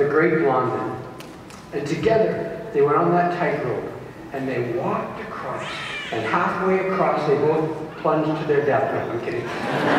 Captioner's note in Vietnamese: tiếng cười rộ